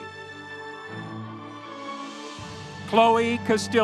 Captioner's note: audience cheering